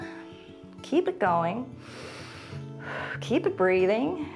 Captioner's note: inhales and exhales